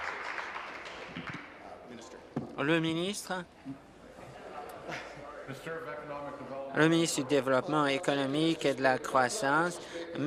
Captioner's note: applause